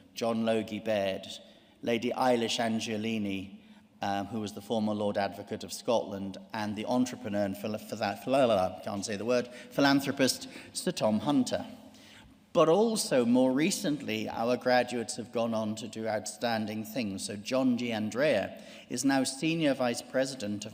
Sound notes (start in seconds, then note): 7.8 speaks in gibberish